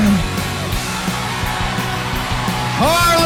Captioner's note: crowd cheering